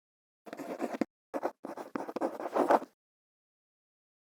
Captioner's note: quill scratching